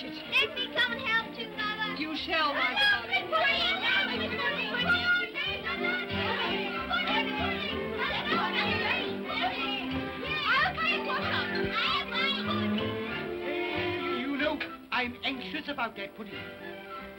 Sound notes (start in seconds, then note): 2.4 children clamor; 3.4 upbeat music